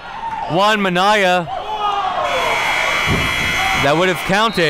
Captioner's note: buzzer rings